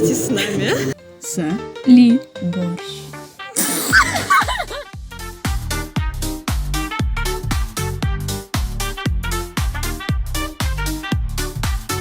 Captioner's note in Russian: дикий смех